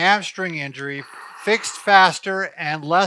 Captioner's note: winces